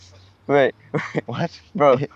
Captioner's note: Saeed chuckles